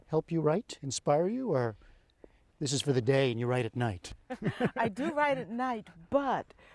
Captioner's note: laughter